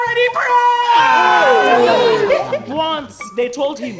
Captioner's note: laughter